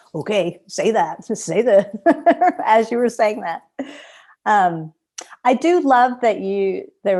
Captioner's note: laughter